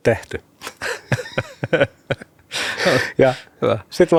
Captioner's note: laughter